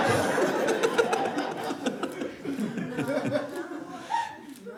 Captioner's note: laughter